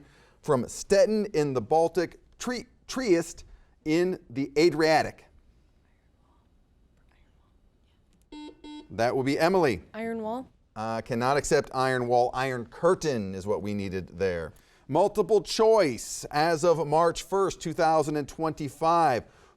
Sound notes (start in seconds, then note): 5.9 whispering; 8.3 buzzer beeps